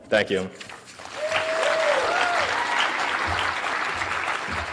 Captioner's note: audience clapping